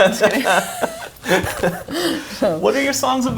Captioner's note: both laugh